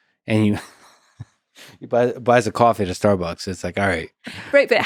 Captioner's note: laughs